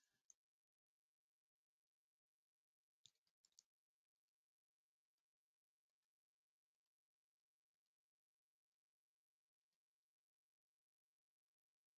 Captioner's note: 28 seconds pause